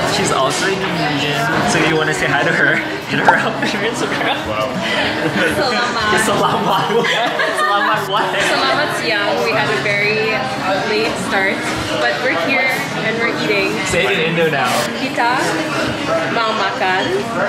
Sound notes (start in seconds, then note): 3.0 laughs